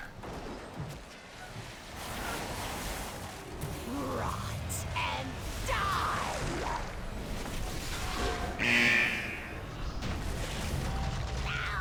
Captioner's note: buzzing